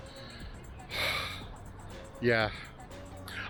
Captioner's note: breathes loudly